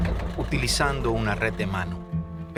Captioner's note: engine whirring